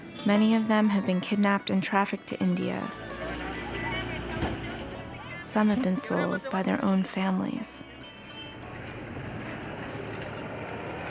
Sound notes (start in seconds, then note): 4.3 car door closes